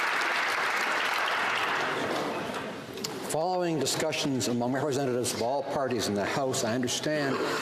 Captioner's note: some Applause